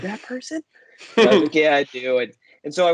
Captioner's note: laughing